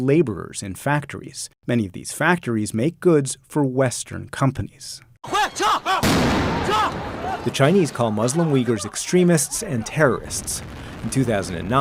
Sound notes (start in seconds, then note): 5.7 speaking foreign language; 6.0 explosion booming